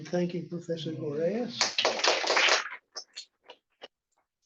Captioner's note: applause